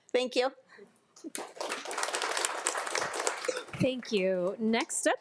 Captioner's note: everyone applauding